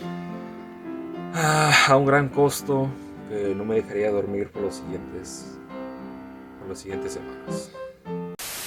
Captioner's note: sigh